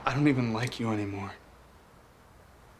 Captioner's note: none